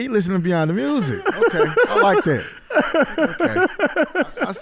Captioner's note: laughs